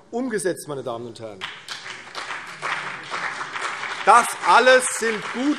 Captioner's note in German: Beifall CDU und BÜNDNIS 90/DIE GRÜNEN